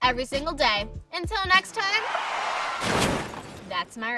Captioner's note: car crashing